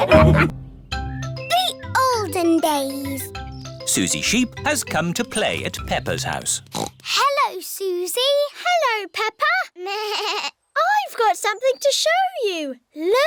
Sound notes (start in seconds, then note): 0.1 all laughing; 6.6 snorts; 10.1 bleats